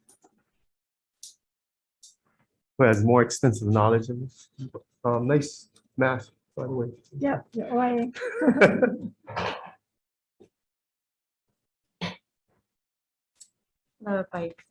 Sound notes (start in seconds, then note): 8.1 all laughing